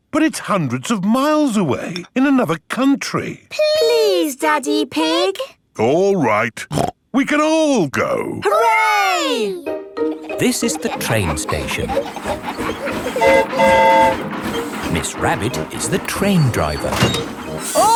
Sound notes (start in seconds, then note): 13.0 train whistle toots